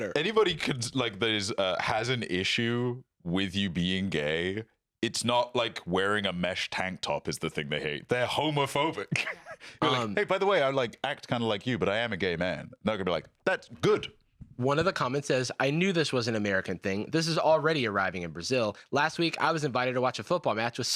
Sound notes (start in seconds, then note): 8.8 laughs